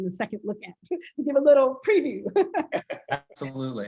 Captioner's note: laughs